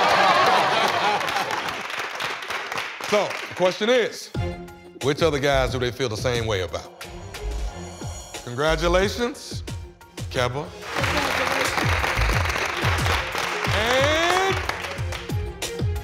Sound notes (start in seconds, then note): 0.0 laughter; 10.8 applause